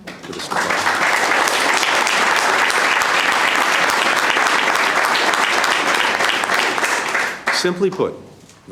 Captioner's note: applause